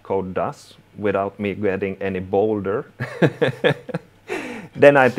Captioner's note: laughing